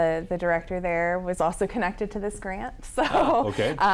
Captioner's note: laughs